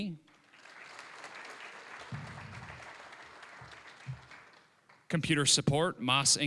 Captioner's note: applause